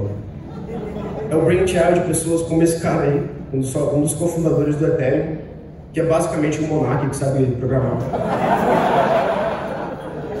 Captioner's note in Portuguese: risos